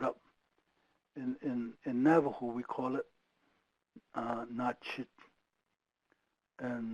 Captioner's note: speaking foreign language